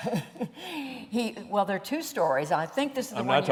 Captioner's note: laughter